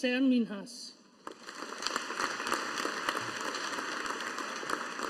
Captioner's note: audience applauding